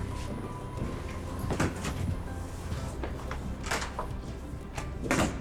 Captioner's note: door opens